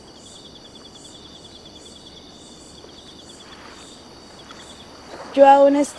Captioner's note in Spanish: Sonidos de grillos y de río